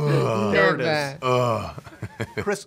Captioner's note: grunts